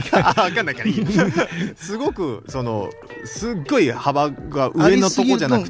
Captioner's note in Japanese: 笑い